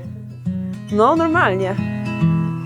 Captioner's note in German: spricht in einer Fremdsprache; Fröhliche Musik